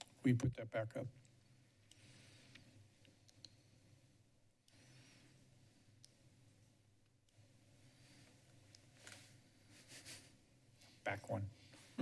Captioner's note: silence